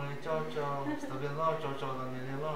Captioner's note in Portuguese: Risos